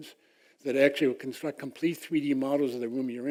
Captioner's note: none